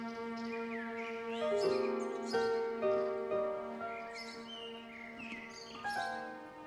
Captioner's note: somber piano music; birds chirping